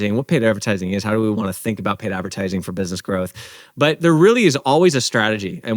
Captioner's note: none